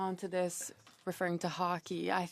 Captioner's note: speaking French